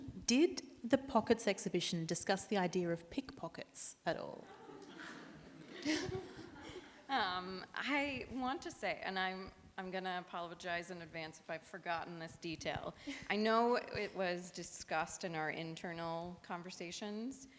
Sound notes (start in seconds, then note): 4.5 audience laughs